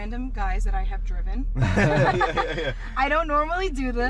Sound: all laugh

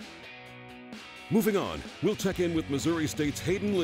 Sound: voiceover

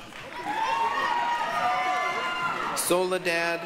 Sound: applause, cheering

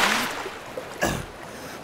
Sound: gasps

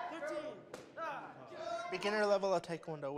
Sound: shouting

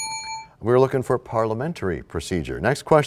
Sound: bell rings, time expires

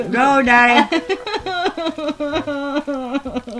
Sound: head cries hysterically

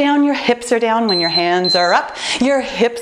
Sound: timer beeping

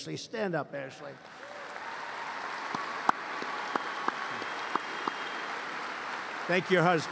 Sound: applause

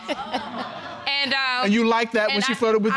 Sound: audience laughing

